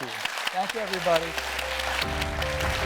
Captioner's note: audience applauding; gentle chiming music